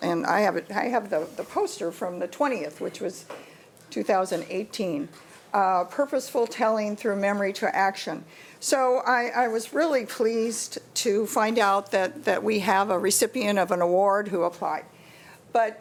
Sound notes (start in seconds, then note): none